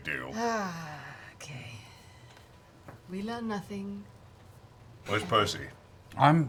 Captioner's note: sighs